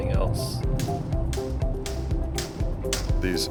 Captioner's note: hammering